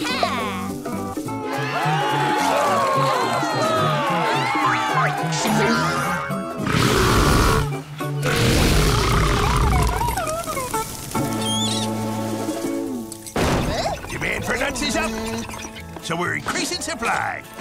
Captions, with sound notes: [cheering] Demand for nuts is up. So we're increasing supply.